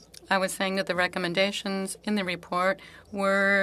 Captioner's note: speaking French